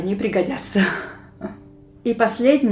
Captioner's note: giggles